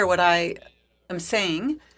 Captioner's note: speaking French